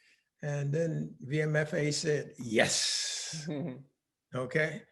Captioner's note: laughing